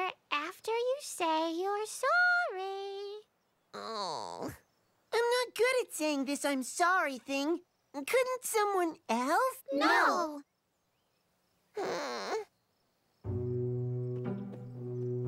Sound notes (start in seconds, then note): 3.8 groan; 11.8 whimper